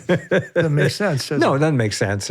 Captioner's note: laughs